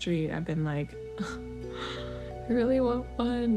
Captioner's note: sigh